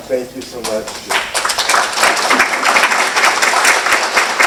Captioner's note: applause